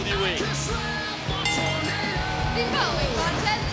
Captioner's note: bell ringing